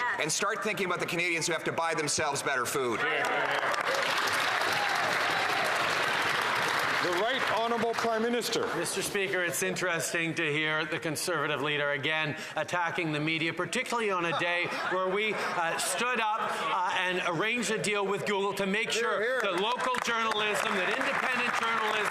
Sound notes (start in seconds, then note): 6.4 some Applause